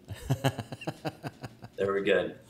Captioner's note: laughs